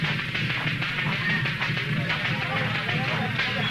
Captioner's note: cheering